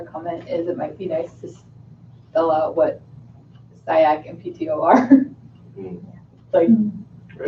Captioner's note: laughs